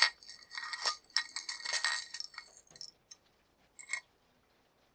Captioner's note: necklace clinking